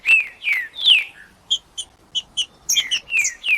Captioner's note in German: trinca ferro cantando